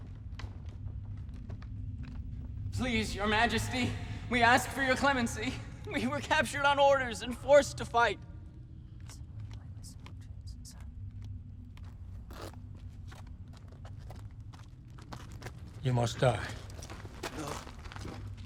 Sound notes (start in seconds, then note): 9.2 whispers